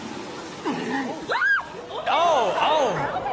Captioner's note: woman screams; sea lion roars